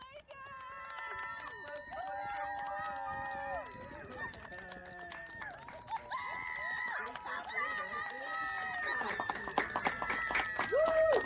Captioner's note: clapping and cheering